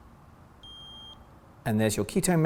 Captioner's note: beep